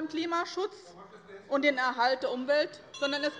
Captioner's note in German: Anhaltende Unruhe - Glockenzeichen der Präsidentin